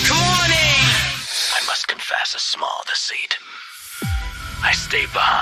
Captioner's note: Static